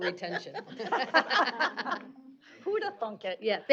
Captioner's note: laughs